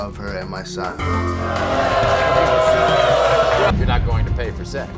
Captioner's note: audience oohs